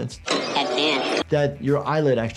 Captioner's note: static crackling